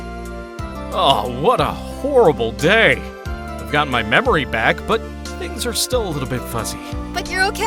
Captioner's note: groans